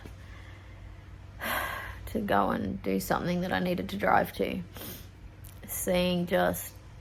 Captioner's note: sighs; sniffs